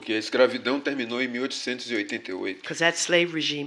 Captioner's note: speaking portuguese